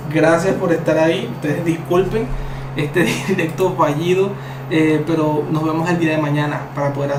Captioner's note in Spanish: risas